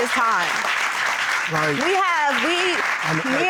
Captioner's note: audience clapping